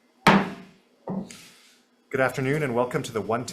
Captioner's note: gavel taps